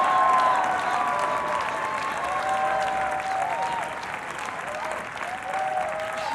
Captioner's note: everyone cheering and applauding